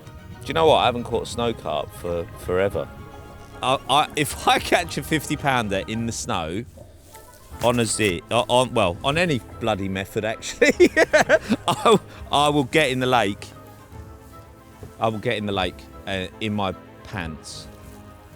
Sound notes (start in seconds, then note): 10.3 laughs